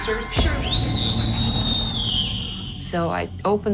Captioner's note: screams